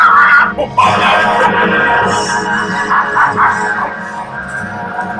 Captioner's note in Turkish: Köpek havlamaları devam ediyor